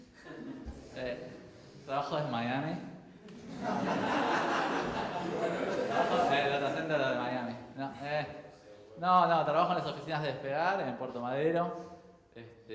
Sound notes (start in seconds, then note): 0.1 crowd chuckles; 2.0 jokingly; 3.2 crowd laughs; 5.9 jokingly